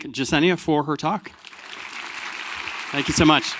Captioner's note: crowd applauding